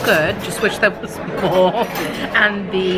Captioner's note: chuckles